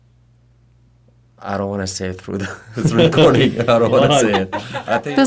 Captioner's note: laughter